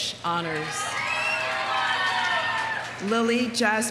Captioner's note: audience cheering; audience applauding